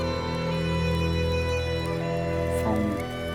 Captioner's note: campfire crackles